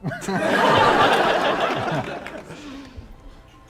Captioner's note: laughter